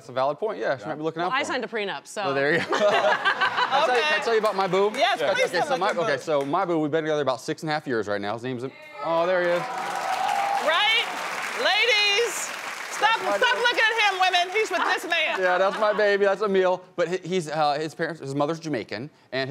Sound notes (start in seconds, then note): 2.5 audience laughing; 9.0 audience applauding